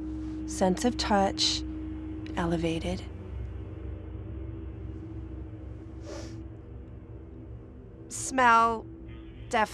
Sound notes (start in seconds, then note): 5.8 sniffs